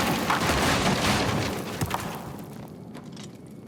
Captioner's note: rocks crashing